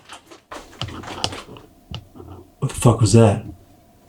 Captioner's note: something grunting